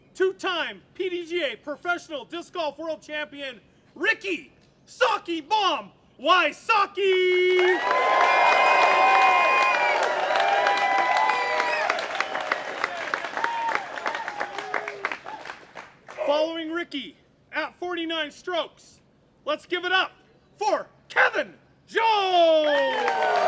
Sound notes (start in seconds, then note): 7.4 applause